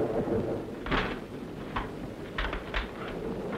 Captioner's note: window noise